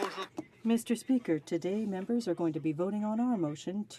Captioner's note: some Applause